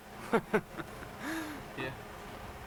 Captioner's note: laughs